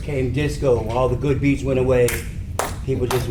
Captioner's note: claps hands